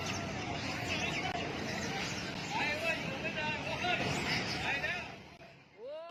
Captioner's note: speaking in foreign language